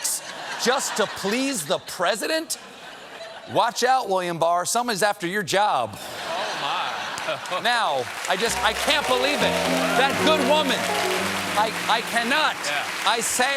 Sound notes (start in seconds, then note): 6.0 laughter; 8.4 piano riff; 9.7 cheers and applause